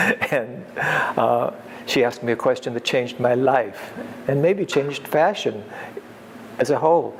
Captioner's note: laughs